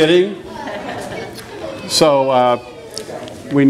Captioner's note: laughter